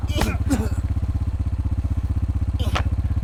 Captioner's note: groans